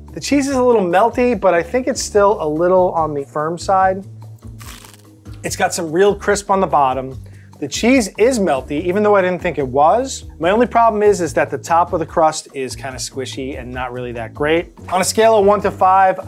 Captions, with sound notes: The cheese is a little melty but I think it's still a little on the firm side. [pizza crunches] It's got some real crisp on the bottom. The cheese is melty even though I didn't think it was. My only problem is, is that the top of the crust is kinda squishy and not really that great. On a scale of one to five,